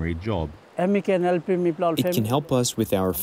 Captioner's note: through translator